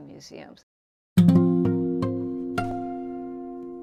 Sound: Vietnamese

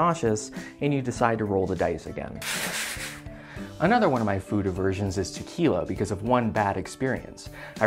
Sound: scrubbing

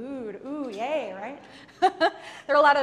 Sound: laughs

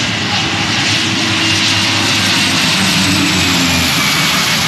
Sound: plane engine roars

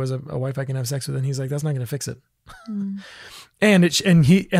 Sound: laughs

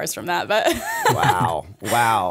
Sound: chuckle

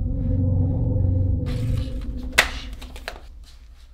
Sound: breathes shakily

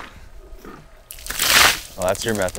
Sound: water sloshing

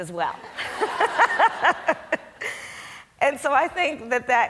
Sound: Kamala laughs

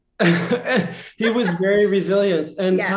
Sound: laughter

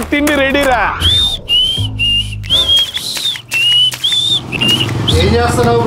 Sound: whisteling

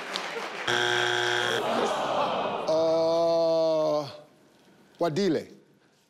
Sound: audience cheers; board buzzes; audience groans

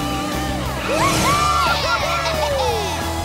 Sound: cheering

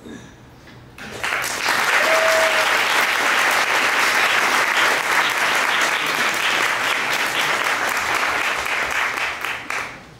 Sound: applause

